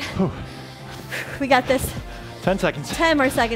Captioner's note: breathes heavily